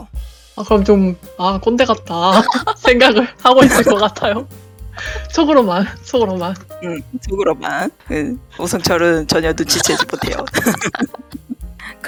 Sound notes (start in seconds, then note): 2.3 laugh; 8.0 laugh; 9.7 laugh